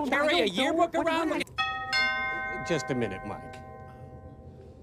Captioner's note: doorbell rings